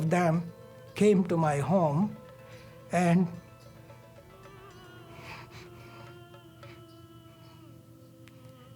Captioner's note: sobs quietly